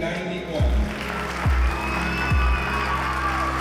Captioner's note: cheering and applause